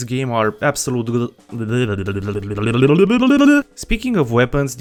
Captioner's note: stuttering followed by gungan sounds